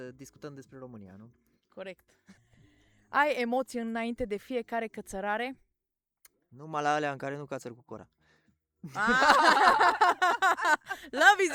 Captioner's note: everyone laughs